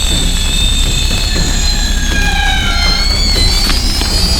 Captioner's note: flames crackling